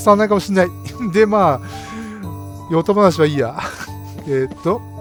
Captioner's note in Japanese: 笑い